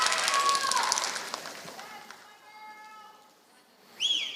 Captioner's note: applause